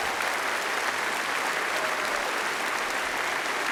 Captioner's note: applause